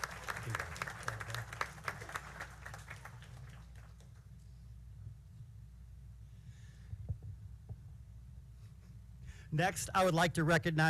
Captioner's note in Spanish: Aplausos